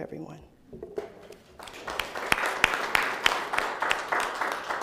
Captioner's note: participants clapping